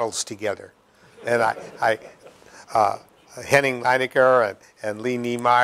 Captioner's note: laughter